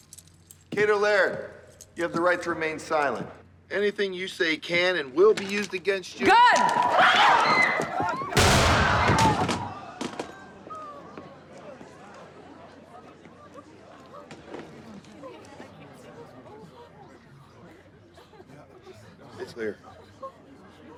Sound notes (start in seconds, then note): 6.2 screams; 8.3 gunshot